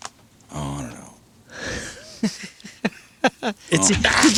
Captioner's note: laughing